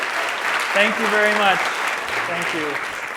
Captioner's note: applause